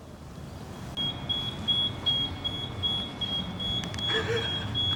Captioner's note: beeping noise; giggling